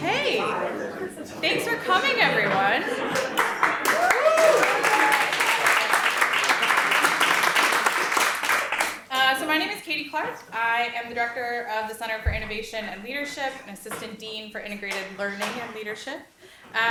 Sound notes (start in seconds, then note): 2.9 audience applauds